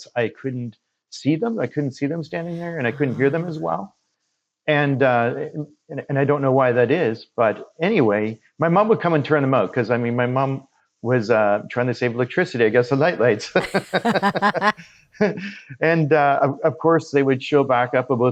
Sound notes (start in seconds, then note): 13.5 both laughing